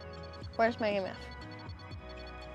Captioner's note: REM-Pod sounds with flashing lights